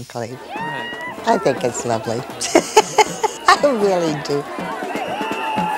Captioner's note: crowd cheering; laughing